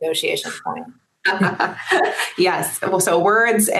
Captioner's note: laughing